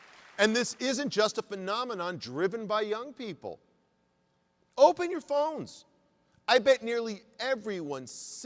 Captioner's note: applause